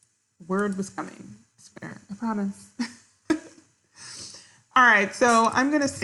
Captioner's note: giggling